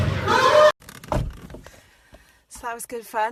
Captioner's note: door closes